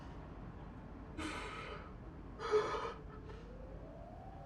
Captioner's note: Jacob sobbing